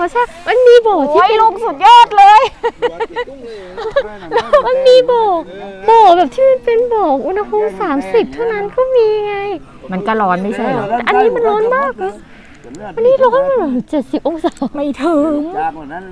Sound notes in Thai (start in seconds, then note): 2.1 เสียงหัวเราะ